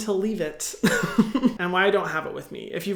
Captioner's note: Hyram laughs